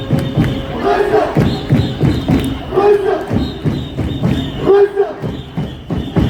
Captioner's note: chant